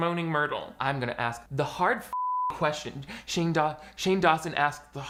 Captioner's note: beep